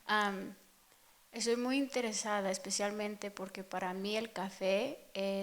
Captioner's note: speaking in Spanish